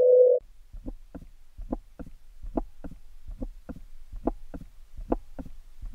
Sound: hollow rhythmic pulsing

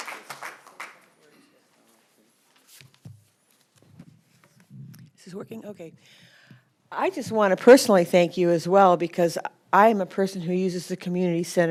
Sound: applause

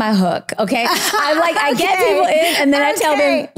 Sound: laughs

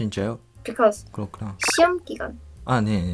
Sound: Korean

